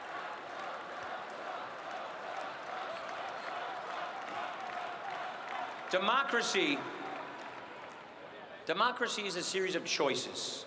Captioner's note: cheering and applause